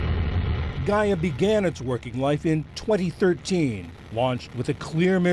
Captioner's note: voice-over